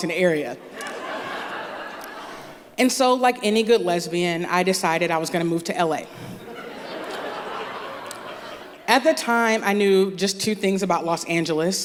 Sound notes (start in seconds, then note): 0.6 laughter; 6.4 laughter